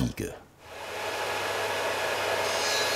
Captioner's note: sound of sawing